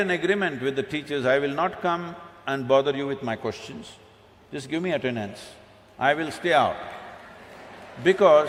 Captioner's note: both Laugh